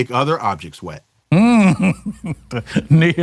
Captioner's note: laughs